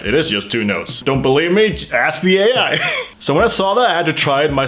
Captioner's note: laughs